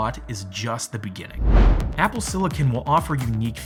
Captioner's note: air whooshing